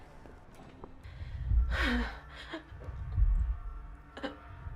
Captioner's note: heavy breathing